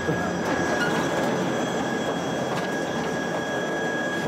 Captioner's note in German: Der Aufzug surrt